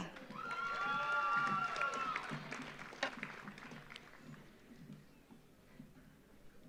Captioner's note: audience applauds; audience cheers